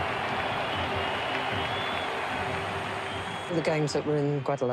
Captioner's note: applause